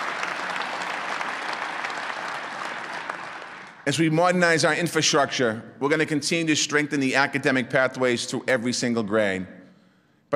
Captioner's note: applause